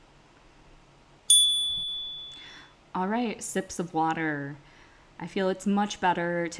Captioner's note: chime